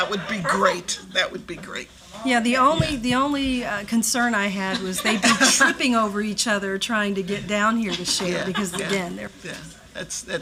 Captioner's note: laughter